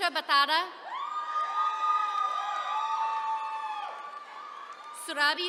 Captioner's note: attendees cheering